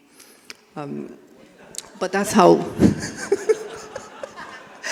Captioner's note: everyone laughing